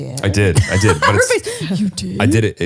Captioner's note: laughs